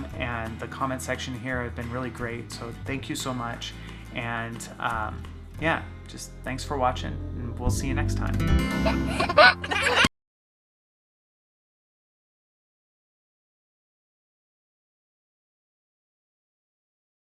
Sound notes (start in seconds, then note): 8.4 gentle music; 8.7 child laughing